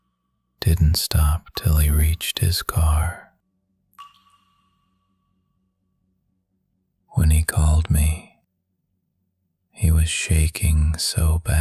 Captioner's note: pause